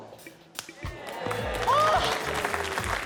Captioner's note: snap!